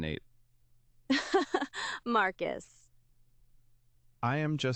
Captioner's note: laughs hard